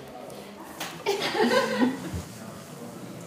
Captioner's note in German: Kichern